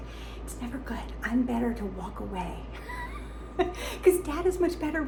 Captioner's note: chuckles